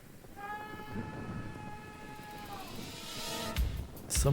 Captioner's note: man screaming